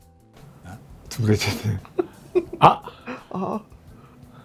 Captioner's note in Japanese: 笑い